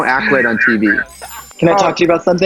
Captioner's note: chimes